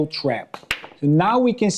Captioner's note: pool balls clack